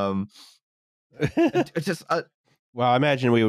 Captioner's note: laughs